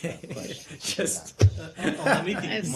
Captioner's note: laughter